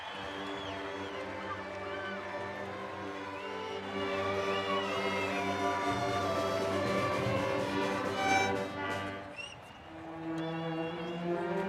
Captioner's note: cheers and applause